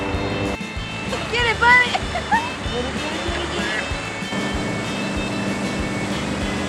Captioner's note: laughs